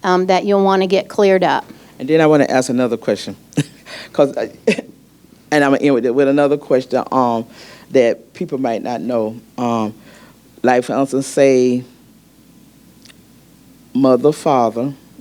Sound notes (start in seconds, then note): 3.5 chuckles